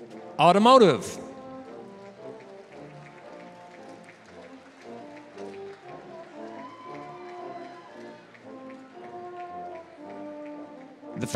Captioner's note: applause; applause